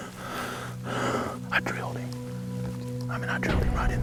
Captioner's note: whispering